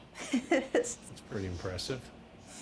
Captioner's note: laughing